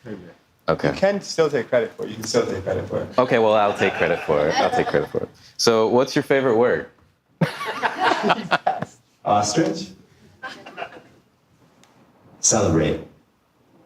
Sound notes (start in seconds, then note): 7.4 audience laughing; 10.4 audience laughing